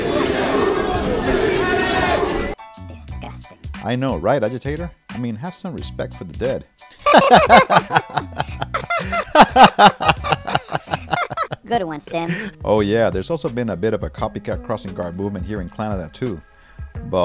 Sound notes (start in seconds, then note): 7.0 laughing